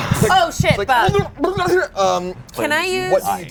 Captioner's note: gurgles